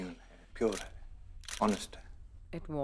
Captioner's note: Camera shutter clicks